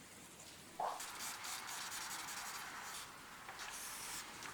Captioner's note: eraser noise